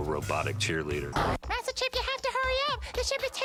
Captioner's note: falsetto